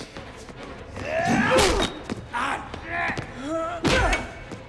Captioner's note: Dalton grunts; Gammon yells; blow thuds